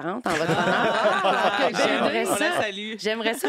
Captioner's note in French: rires